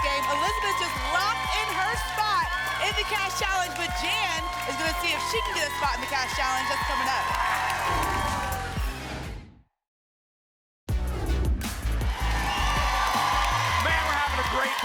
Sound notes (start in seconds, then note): 7.6 applause and cheering cont; 9.0 whoosh; 11.7 applause and cheering